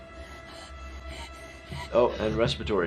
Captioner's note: gasping for air